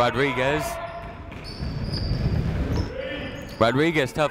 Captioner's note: people shouting in the crowd